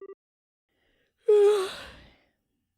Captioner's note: yawns